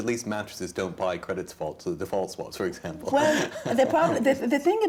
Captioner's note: laughs